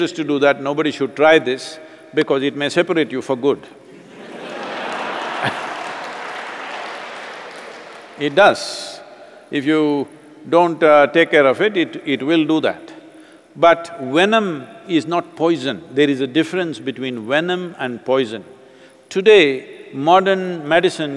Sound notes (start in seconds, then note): 3.9 laughter/Applause